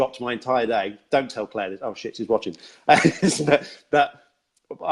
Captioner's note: laughs